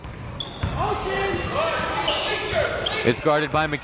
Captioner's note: crowd members shouting